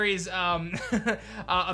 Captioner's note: chuckles